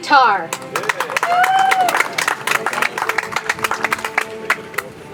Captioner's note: audience applauds; soft music